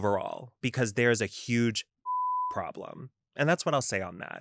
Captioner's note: beep